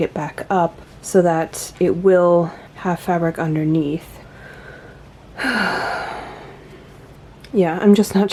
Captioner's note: sighs